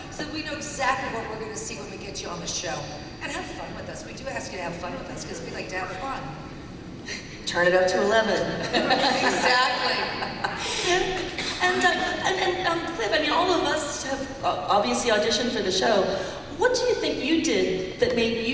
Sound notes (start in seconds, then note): 10.5 laughter